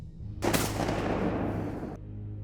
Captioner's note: gun shot